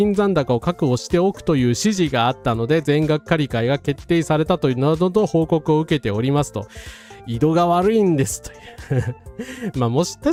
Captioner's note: laughs